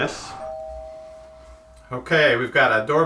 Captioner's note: doorbell rings